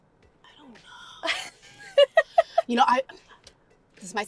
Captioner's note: Georgia laughs